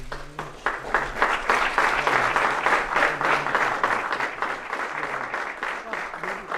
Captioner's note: applause